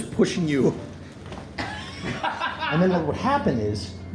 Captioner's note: amused laughter